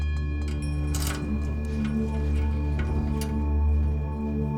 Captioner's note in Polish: dźwięk otwierania gabloty